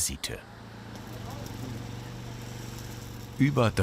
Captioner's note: vehicle hum